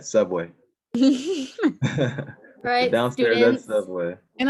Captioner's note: laughing